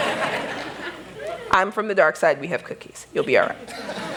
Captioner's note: laughter